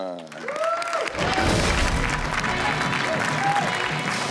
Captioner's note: audience cheers